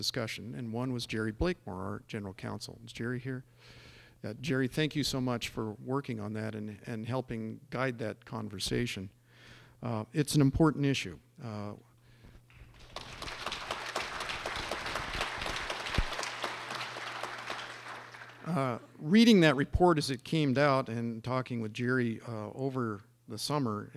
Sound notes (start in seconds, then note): 12.5 clapping